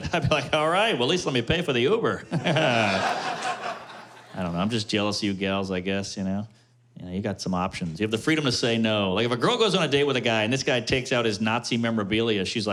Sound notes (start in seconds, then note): 2.2 laughter